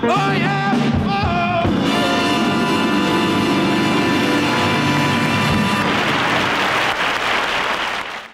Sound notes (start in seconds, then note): 4.4 audience applauding